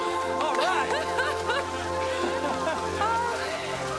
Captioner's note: crowd